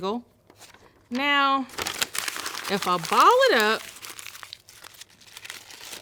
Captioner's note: paper rustling